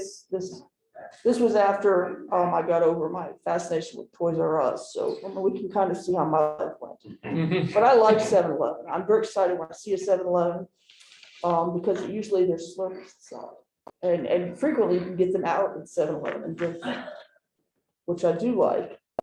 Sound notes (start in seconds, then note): 7.4 laughter